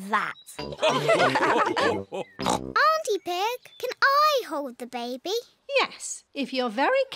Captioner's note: all laugh